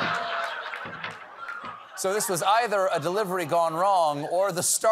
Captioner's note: screaming